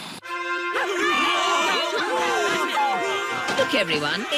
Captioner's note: cheering